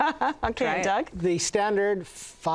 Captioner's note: laulghing